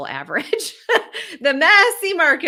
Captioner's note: laughs